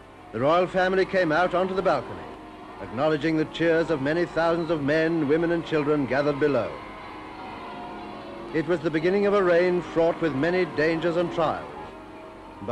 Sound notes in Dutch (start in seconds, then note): 6.8 klokken luiden; 6.8 mensen juichen